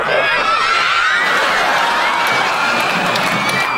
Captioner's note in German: Publikum schreit